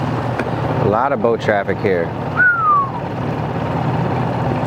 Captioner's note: whistles